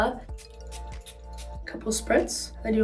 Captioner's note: bottle spritzing